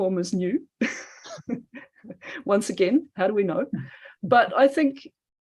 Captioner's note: laughs